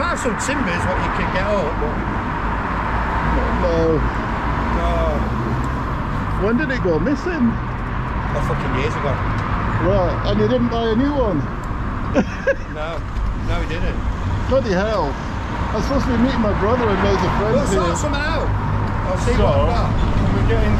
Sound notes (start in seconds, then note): 12.1 laughs